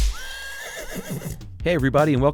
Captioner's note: horse neighing